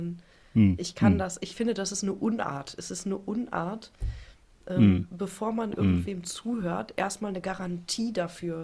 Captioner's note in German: räuspern